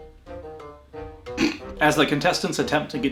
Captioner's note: snorts; laughs